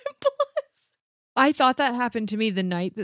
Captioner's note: laughs